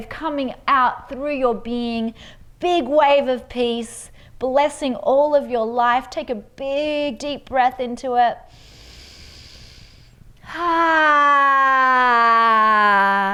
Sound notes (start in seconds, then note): 8.4 inhales deeply; 10.5 exhales deeply